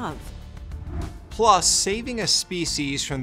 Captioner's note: air whooshes